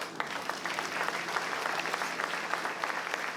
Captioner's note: applause